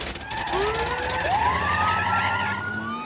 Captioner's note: siren wailing